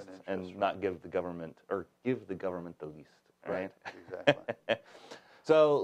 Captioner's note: laughs